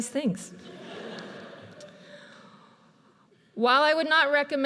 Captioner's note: audience laughs